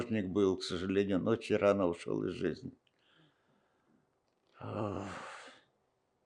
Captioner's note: sighing